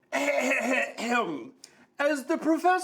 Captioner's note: clears throat